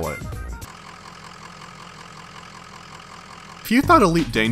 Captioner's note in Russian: звук работающего вхолостую двигателя